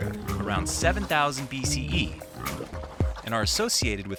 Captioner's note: pigs snorting